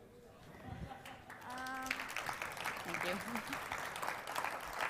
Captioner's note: applause